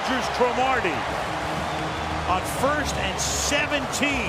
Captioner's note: cheering